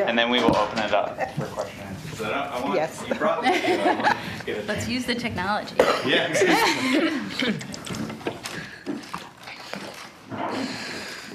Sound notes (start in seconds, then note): 3.3 laughing; 5.6 woman's Voice